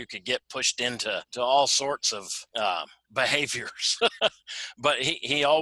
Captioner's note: laughs